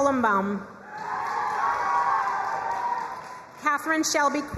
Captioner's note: crowd cheering and applauding